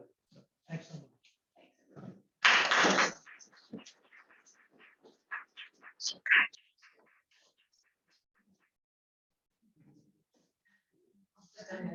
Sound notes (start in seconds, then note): 2.4 applause